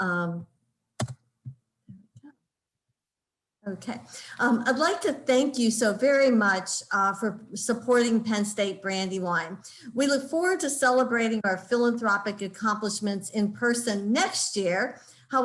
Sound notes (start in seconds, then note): 1.0 keyboard cluttering